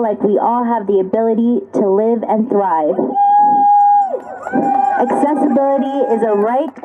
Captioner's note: cheers and applause